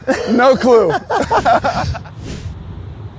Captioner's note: laughs